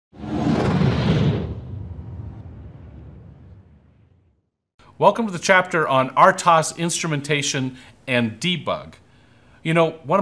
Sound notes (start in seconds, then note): 0.1 whooshing